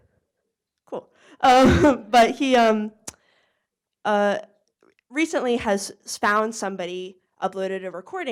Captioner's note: laughs